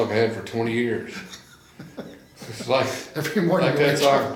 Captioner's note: laughs